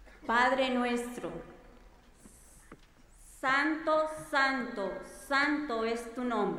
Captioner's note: speaking in foreign language